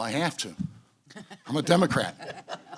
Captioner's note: laughter